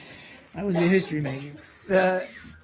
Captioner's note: laughter